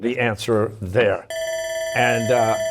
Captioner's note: bell ringing